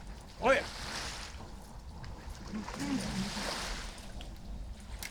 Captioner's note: hums